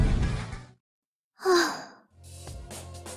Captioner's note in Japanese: ため息